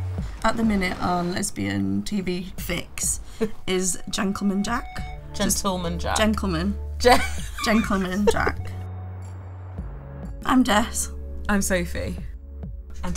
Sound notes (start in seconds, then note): 7.1 laughing